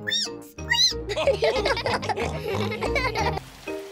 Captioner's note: squeaks; all giggle